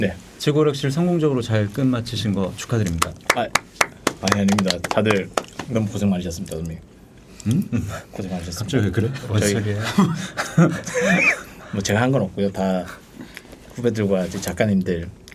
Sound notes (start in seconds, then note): 10.8 laughing